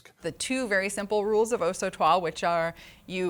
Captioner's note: speaking in foreign language